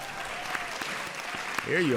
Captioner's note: audience applauds